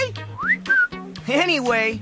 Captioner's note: whistle